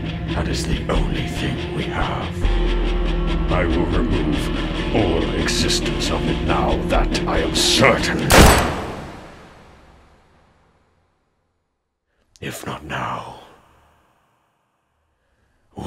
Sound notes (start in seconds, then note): 8.3 gun shot